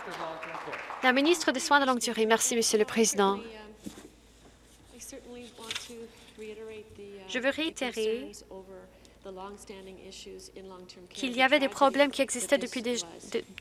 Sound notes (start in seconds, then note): 3.1 some Applause